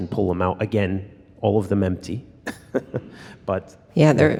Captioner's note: laughs